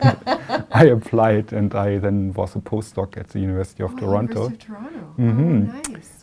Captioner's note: laughter